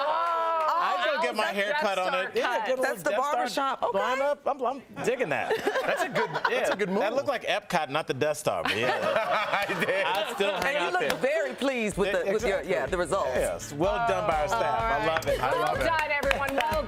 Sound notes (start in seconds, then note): 5.5 laughter